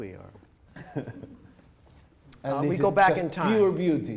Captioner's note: chuckles